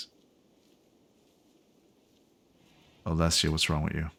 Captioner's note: silence